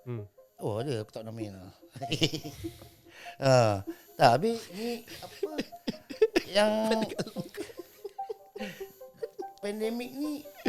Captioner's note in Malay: ketawa